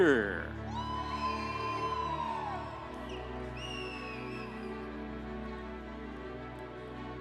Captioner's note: audience cheering; instrumental music